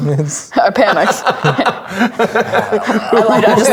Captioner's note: players laughing